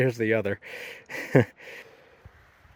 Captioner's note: laughs